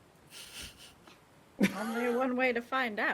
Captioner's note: person chuckling